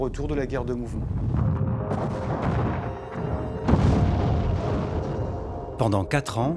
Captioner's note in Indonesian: suara pertempuran